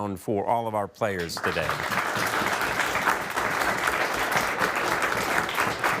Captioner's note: everybody clapping